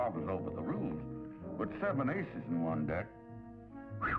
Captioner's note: whistles